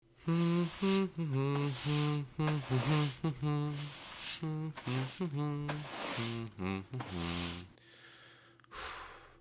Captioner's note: hums